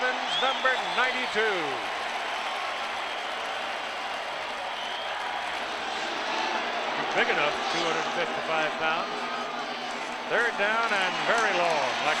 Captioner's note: cheering and applause